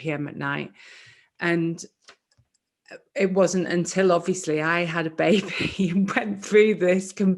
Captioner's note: laughs